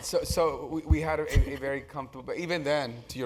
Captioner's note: laugh